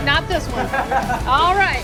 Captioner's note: laughs